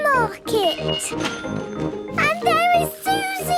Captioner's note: cash register dinging